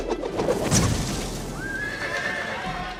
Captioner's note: cheers and applause; neighing